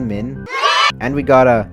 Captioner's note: joyous whimsical sounds